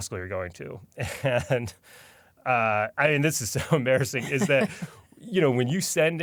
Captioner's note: laughs